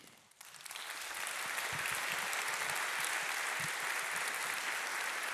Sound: audience applauding

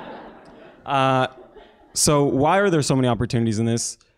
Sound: laugh

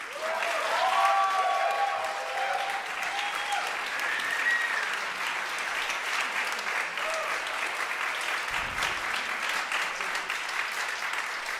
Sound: audience applauding and cheering

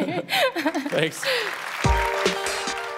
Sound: applause

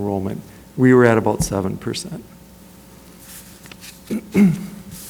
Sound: clears throat

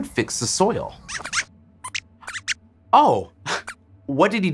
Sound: squeaks squeaks

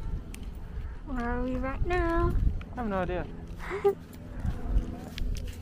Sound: laughs

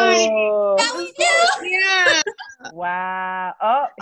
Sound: everyone cheering

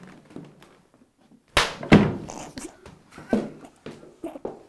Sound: thud

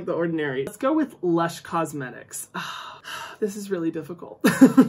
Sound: sighs; chuckles

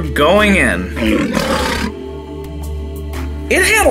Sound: lion growling

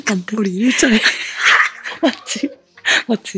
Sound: laughing

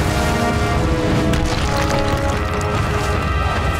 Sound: crumbing

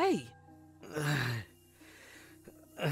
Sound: groans

